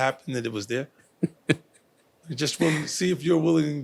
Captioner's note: chuckling